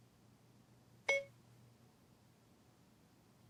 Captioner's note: phone beeping